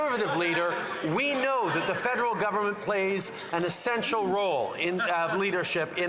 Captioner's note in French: voix de l'interprète